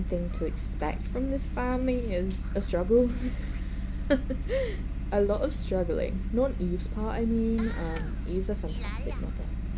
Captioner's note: laughs